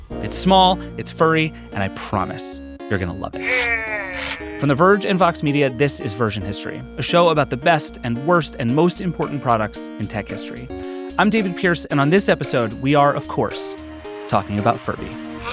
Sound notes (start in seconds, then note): 3.4 Furby babbling